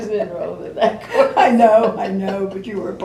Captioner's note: laughter